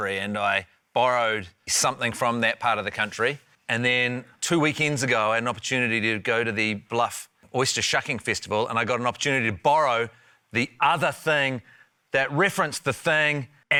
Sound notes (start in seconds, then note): none